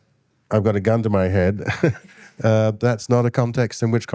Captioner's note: chuckles